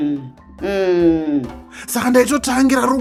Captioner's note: murmurs agreement